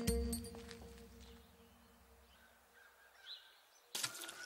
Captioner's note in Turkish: Kuş sesleri